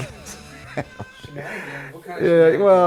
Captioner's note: laughs